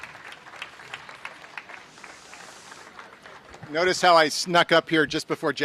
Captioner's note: applause